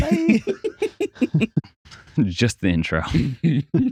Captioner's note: laughs